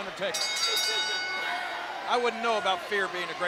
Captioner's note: bell rings